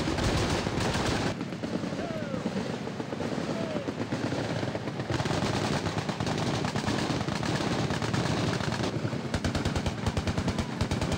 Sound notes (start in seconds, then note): 2.1 voiceover; 4.1 rapid, continuous gunfire